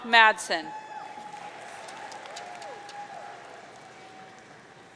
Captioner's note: audience cheering